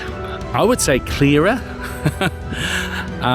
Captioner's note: laughs